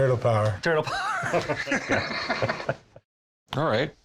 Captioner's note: laughs